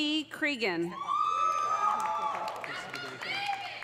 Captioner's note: audience cheering; audience applauding